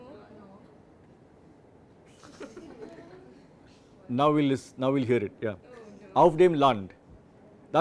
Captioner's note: laughter